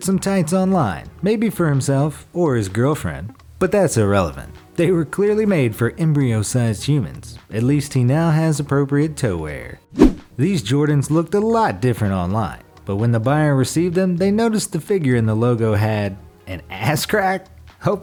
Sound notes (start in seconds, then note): 9.9 air whooshes